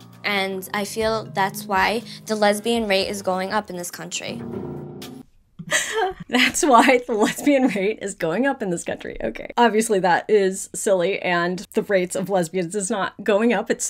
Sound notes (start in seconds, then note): 5.6 laughing